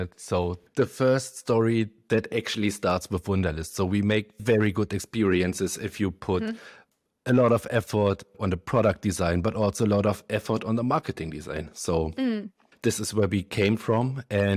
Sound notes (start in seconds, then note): none